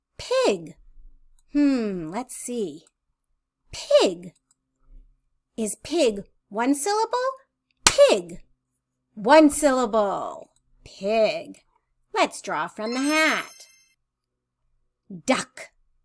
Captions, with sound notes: Pig. Hmmm. Let's see. Pig. Is pig one syllable? [clapping] Pig. One syllable. Pig. Let's draw from the hat. Let's draw from the hat. [chime sound] Duck.